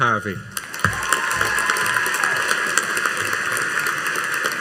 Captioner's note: audience applauding